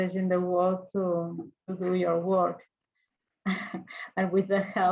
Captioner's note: chuckles